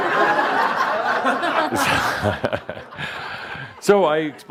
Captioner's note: more laughter